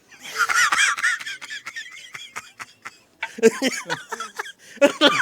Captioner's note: uncontrollable laughter